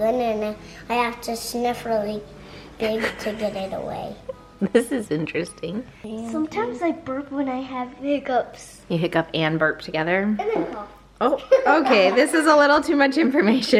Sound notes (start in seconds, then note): 11.0 flatulating; 11.3 laughing